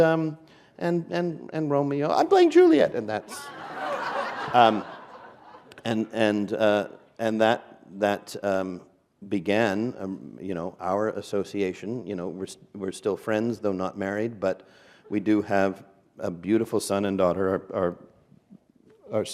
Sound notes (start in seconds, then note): 3.2 laughter